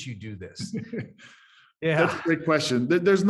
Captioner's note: laughs